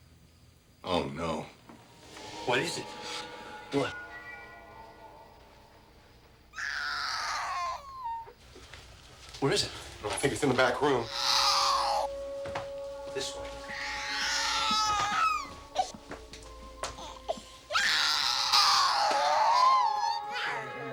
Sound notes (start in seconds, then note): 6.5 baby crying; 17.6 baby crying